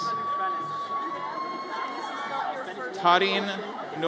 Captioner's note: audience cheers